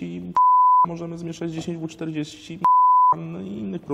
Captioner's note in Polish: bip; bip